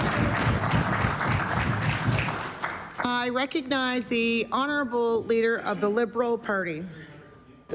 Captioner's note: applause